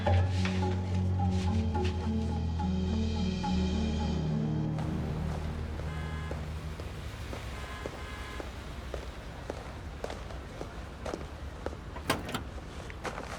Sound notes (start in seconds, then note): 7.2 car horn honking